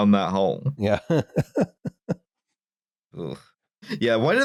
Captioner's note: laughs